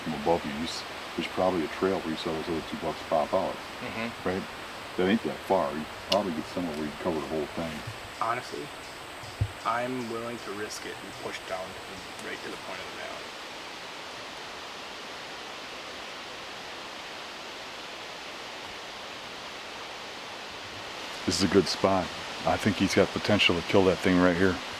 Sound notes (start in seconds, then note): 14.3 wind